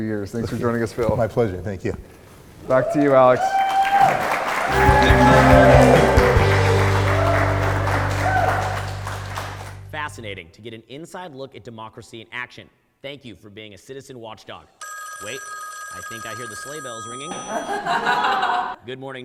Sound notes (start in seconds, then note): 3.9 audience cheers; 4.7 bright, upbeat music; 14.8 phone rings; 17.4 audience laughs